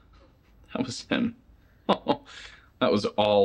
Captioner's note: laughs